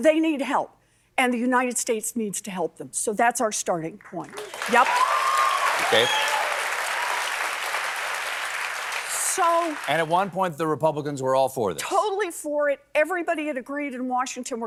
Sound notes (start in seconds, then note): 4.2 applause